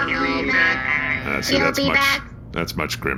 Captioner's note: morgue bots continue to chant “you’ll be back”